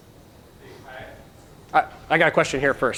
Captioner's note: speaking faintly